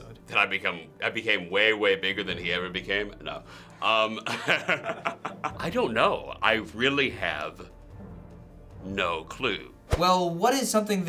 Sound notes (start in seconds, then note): 4.0 chuckles